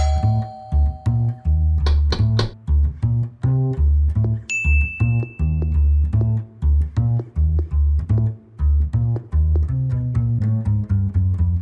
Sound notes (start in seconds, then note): 0.0 doorbell rings; 1.9 knock on door; 4.5 bell dings